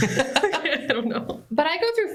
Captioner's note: laughter